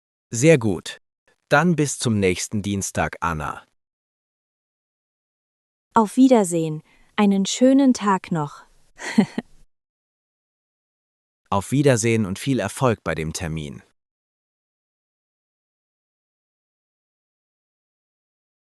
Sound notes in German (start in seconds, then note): 9.0 lacht